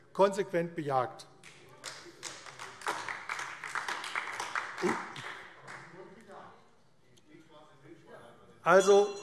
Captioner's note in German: Beifall AfD - Zurufe